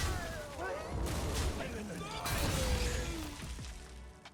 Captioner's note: guns firing; dramatic music